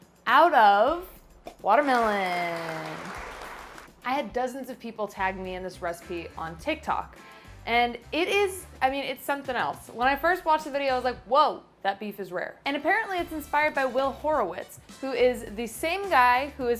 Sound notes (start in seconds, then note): 1.8 crowd applauding